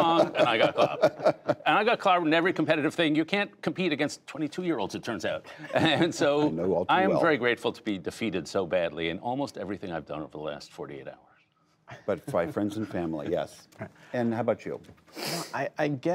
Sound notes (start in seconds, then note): 5.5 laughter